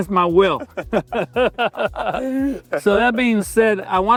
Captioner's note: laugh